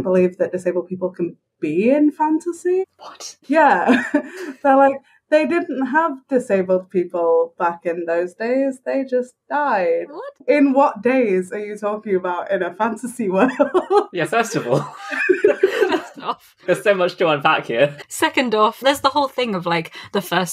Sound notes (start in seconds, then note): 3.0 whispers; 3.8 laughs; 13.5 laughs